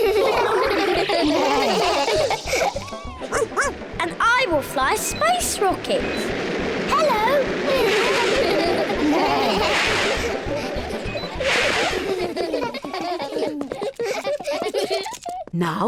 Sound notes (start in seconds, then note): 0.0 all laugh; 3.3 barks; 7.6 all laugh